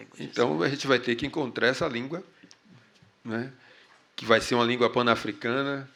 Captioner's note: speaking portuguese